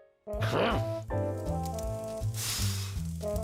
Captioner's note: fire crackling; blows